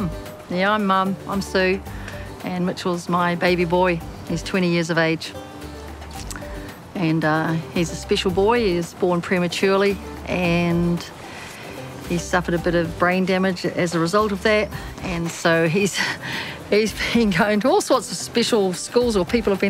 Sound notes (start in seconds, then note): none